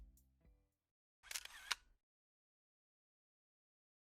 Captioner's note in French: bruit de flash de caméra